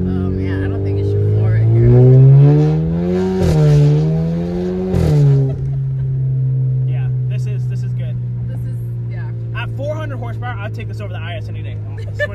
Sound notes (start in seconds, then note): 2.3 engine revving; 5.2 laughs